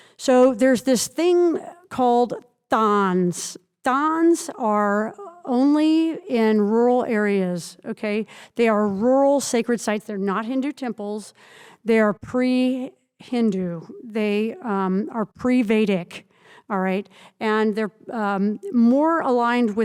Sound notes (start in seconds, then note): none